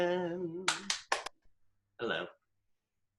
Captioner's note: claps